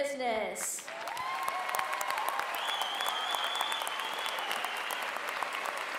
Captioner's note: applause